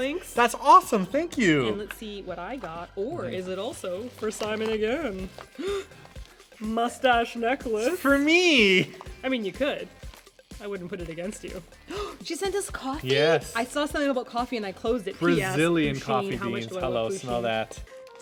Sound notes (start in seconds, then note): 11.8 gasp